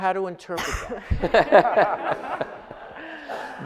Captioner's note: audience laughs